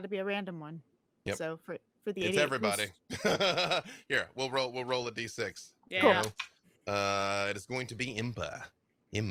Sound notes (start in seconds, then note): 3.1 laughs